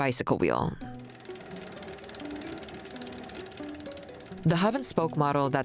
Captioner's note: bicycle wheel clicking